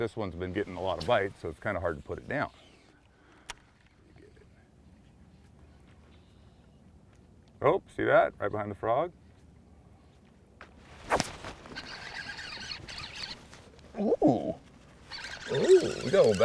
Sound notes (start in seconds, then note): 2.2 reel spinning; 2.5 rod whipping; 7.5 click; 8.1 birds singing; 10.4 fish splashing; 11.0 rod whipping; 11.8 reel cranking